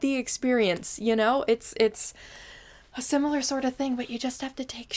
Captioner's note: deep, exasperated inhale